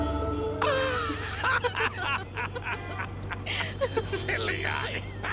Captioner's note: Laughs